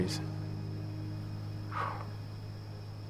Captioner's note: exhales